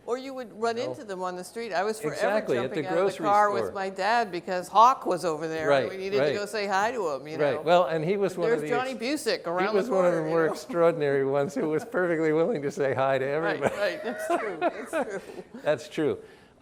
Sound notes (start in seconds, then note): 13.4 laughs